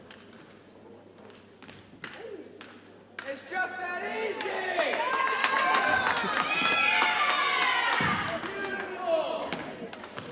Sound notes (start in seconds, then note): 4.7 audience cheers and applauds